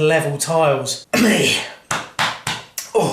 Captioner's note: coughs